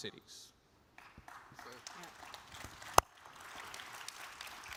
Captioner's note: audience applauds